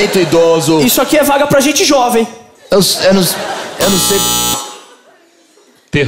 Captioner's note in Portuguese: campainha